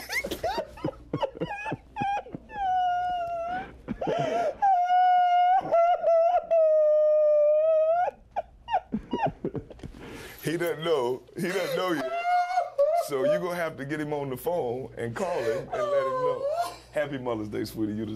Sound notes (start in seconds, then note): 11.4 crying